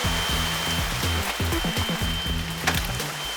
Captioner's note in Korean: 파닥파닥